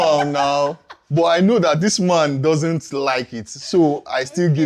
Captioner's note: laughs